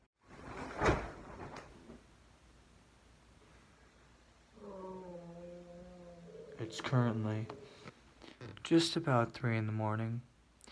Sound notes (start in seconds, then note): 0.5 body thumps; 4.5 moans